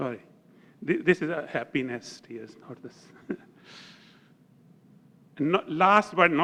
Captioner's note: laugh